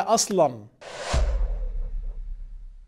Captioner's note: sound effects